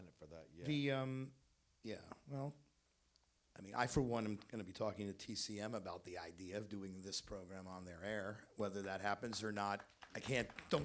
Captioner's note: applause